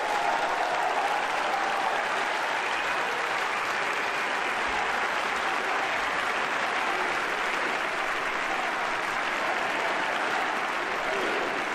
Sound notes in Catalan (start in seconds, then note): 0.0 aplaudiments